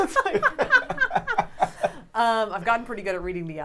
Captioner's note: laughing